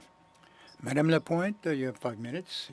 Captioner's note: speaking french